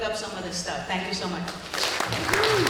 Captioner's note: applause